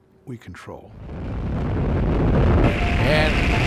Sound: rumbling

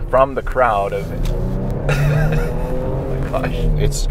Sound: vehicle accelerates

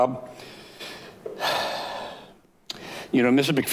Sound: sighs

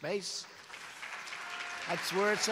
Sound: applause

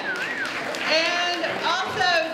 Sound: audience cheering

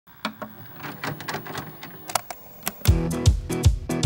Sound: camera whirs; bluesy rock music

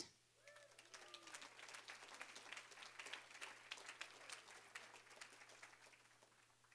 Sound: applause

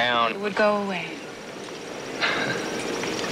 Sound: chuckles

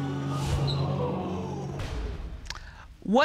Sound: audience exclaiming

